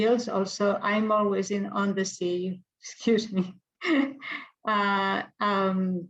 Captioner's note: laughs